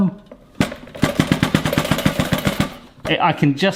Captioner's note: toaster rattling